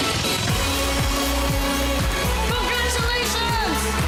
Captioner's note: applause, cheering